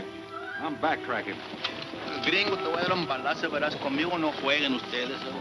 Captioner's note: speaking in foreign language